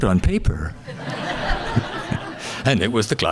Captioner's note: audience laughing